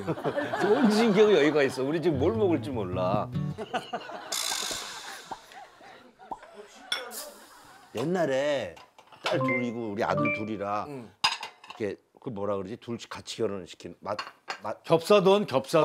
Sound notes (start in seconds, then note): 3.6 laughing